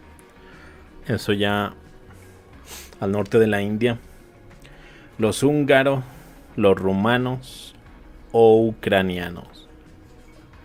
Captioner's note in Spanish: resoplido